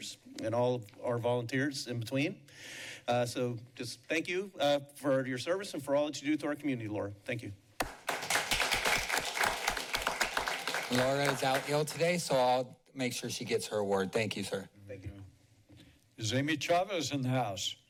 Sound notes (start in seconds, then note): 7.8 applauding